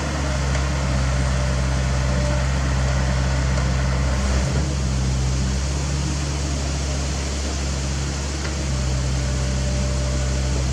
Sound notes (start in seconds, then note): none